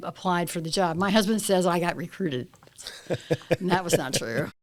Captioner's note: laughter